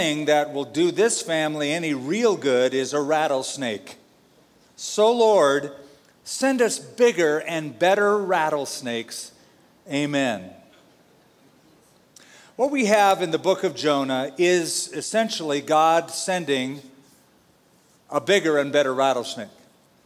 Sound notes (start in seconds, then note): none